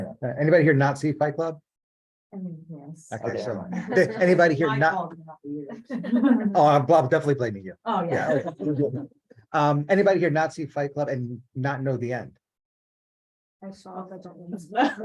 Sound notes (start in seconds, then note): 8.0 laughing